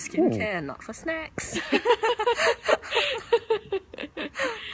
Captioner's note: laughing